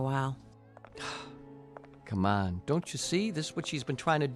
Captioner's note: sighs